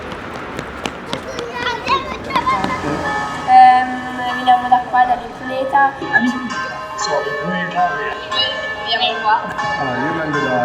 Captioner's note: audio recordings playing in the background